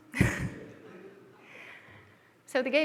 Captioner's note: laughter